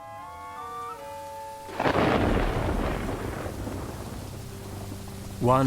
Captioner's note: thunder rumbling